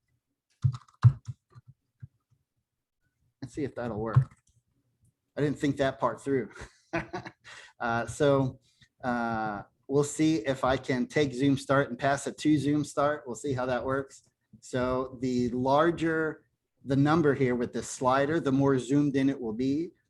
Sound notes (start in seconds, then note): 6.5 laughter